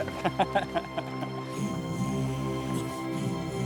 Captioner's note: laughter